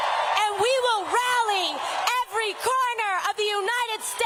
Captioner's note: cheers and applause